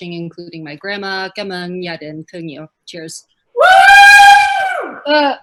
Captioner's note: speaking in foreign language